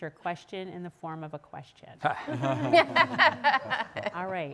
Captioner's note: audience laughing